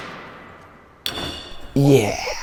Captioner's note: metal clinking